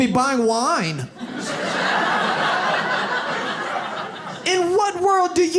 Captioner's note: audience laughs